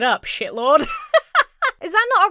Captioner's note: laughs